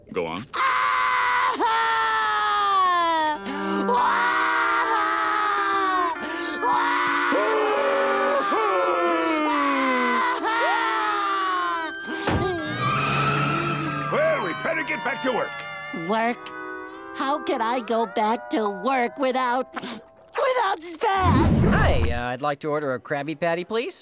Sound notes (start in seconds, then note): 0.3 crying; 11.5 siren blaring; 19.8 sniffling